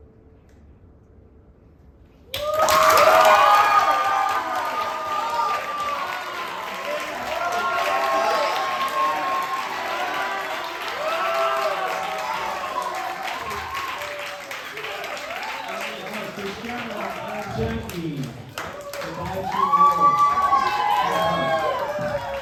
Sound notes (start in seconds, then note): 2.4 applause, cheers